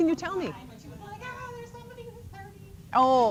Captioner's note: imitating excitedly